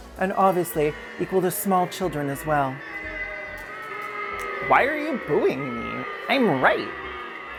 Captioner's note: crowd boos